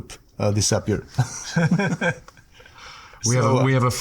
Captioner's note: chuckling